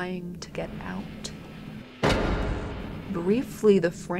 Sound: static, thumping

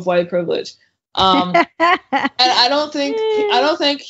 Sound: laughing

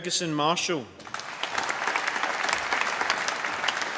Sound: applause

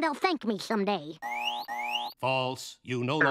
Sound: beeping

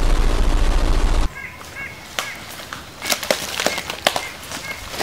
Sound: nature sounds

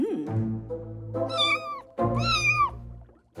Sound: meowing

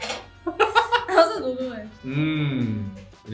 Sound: laughs

